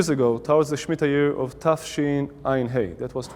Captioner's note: Speaking Hebrew